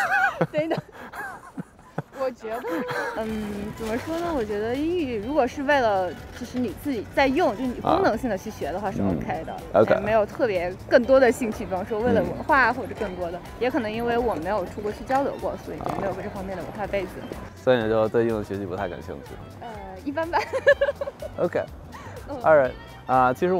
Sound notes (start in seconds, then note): 0.0 laughter; 2.3 speaking in foreign language; 17.6 speaking in foreign language; 20.3 laughter